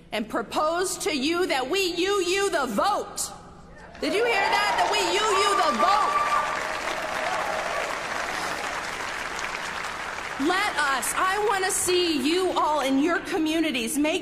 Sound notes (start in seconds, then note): 6.6 audience applauding